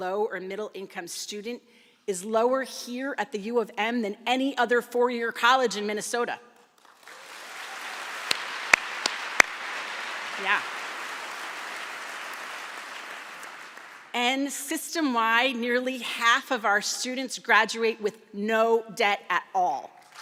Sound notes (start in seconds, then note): 6.6 applause; 20.0 applause